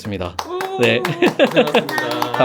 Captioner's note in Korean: 짝짝짝짝